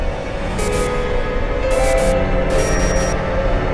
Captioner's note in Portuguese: chiado